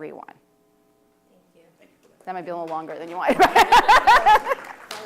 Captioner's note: laughter